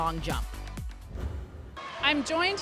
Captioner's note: scene whooshing